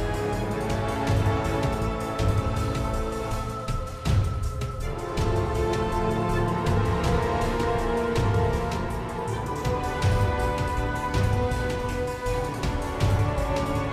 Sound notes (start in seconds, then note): none